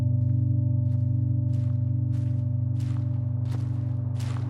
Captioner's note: unsettling music; footsteps pattering